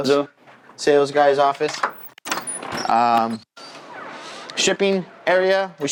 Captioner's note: door creaks